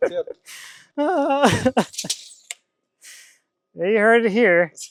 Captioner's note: laughing